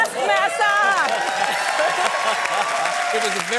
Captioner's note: cheering